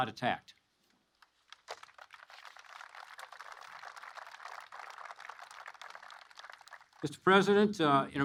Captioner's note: applause